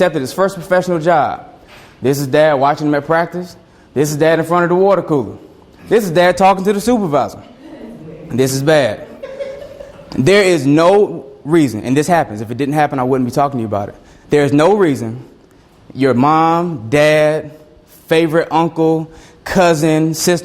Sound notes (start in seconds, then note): 8.9 student laughs